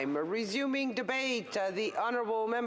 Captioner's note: voice trailing